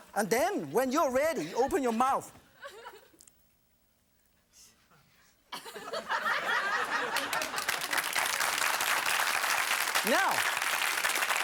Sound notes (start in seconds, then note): 5.6 audience laughing; 6.6 audience applauding